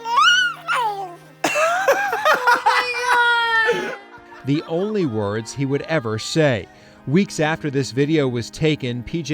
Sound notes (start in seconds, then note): 1.4 laughs